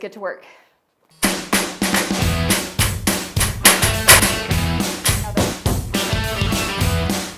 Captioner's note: nail gun popping; upbeat music